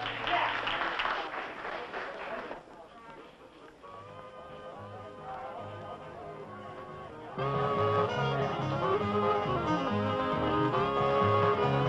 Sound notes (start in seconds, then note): 0.0 audience applauding; 7.4 upbeat music